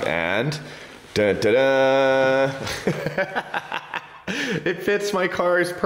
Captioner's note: laughs